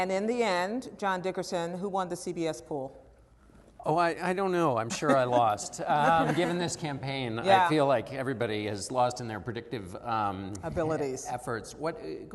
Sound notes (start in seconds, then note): 4.9 laughter